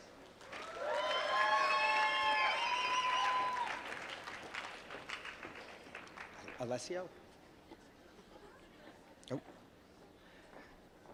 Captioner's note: applause